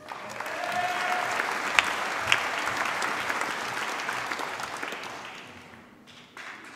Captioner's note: applause